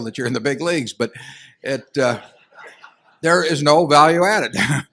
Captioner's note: laughter; laughs